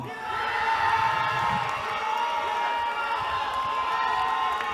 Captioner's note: cheering